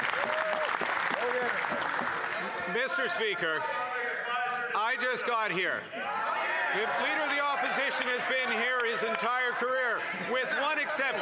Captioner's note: some applause